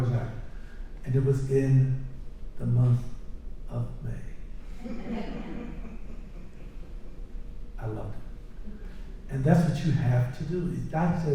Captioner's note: laughter